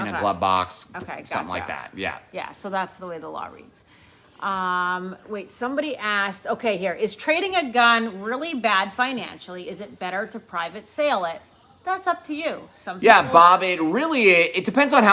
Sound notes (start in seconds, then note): none